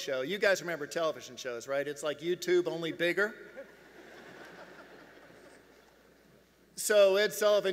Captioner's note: laughs